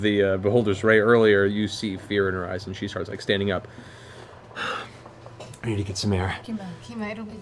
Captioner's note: pants